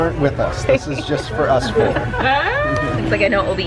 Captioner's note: laughs